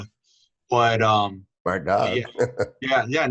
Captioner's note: chuckles